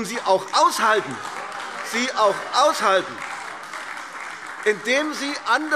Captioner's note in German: Beifall AfD